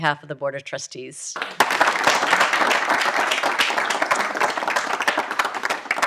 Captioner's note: audience applauding